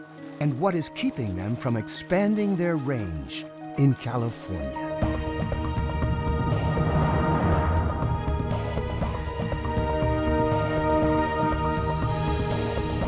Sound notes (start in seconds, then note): 1.7 suspenseful music; 5.3 uplifting music; 6.3 water bubbling